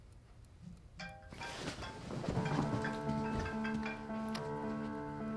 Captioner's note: phone ringing